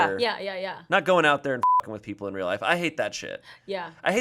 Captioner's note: beep